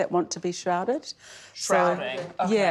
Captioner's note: laughs